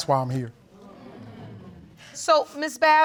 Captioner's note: audience murmuring